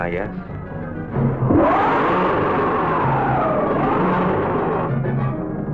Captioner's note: monster roaring